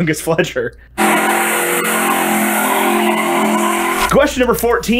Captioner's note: screeching tires